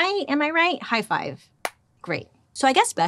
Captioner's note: hands clapping